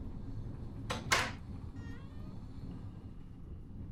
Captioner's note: door clicks